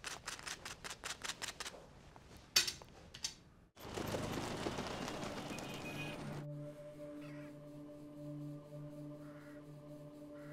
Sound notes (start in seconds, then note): 5.4 traffic sound